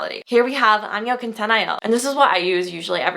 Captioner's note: foreign language